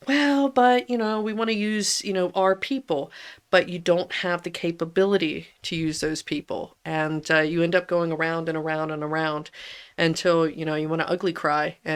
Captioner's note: laughs